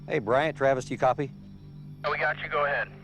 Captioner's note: radio